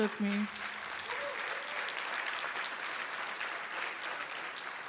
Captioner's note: applause